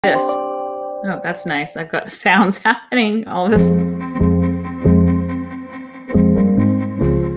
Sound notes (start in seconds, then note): 0.1 chime